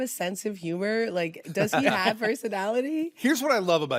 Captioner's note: laughs